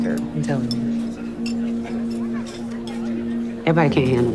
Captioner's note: chatter